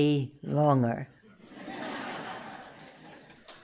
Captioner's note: laughter; applause